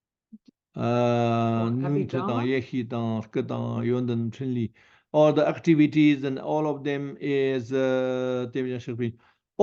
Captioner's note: tibetan